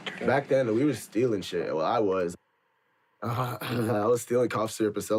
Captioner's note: clears throat